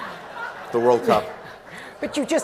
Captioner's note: laughter